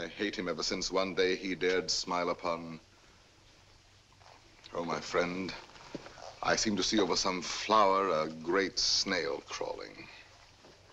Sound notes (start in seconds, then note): none